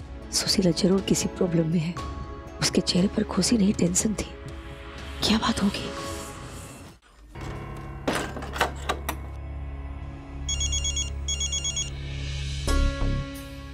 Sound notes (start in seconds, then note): 8.0 door closing; 10.4 phone ringing